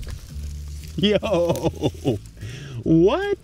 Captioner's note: laughs